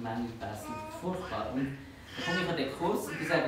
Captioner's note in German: lacht